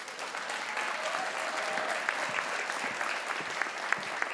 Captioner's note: crowd applauds